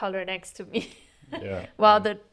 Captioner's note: laughter